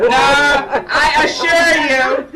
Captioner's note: laughing